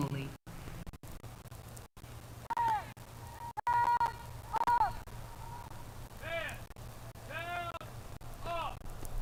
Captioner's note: shouted commands